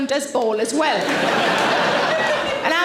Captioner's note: audience laughing